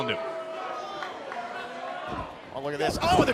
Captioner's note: crowd cheering